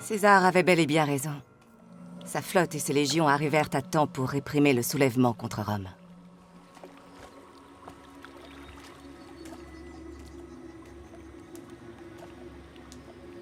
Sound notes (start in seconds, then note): 7.8 gentle music; 7.8 water lapping